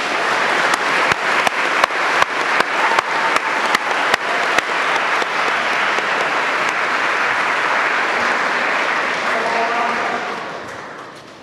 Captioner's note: applause